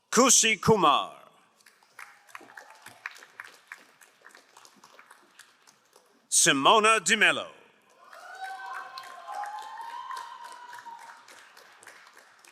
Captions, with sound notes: Kushi Kumar. (crowd applauding) Simon Dimello. (crowd cheering and applauding)